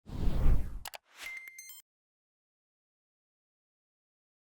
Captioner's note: mouse clicking